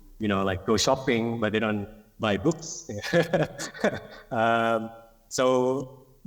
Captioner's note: laughs